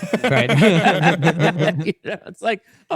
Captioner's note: everyone laughing; laughs